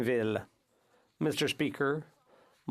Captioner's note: speaking French